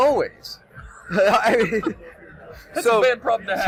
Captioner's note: laughing